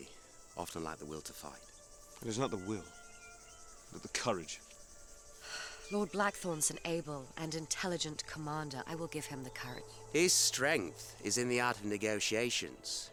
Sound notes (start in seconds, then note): 5.4 sighs